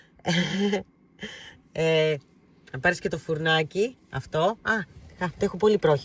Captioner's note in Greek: γέλια